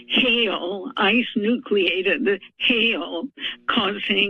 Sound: none

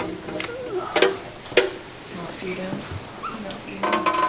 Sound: bucket clanging

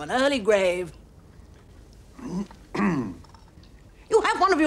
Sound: clears throat

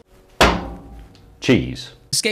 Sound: metal clangs

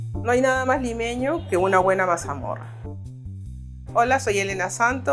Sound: speaks in a foreign language

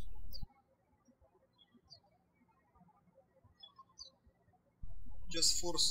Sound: birds chirping

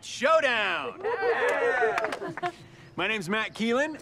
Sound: kids cheering

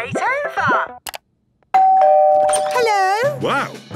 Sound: doorbell ringing

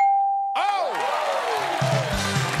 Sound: cheering; cheers and applause

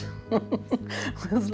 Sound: she laughs

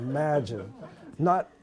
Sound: laughter

